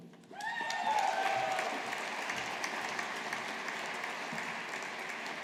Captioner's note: audience applauding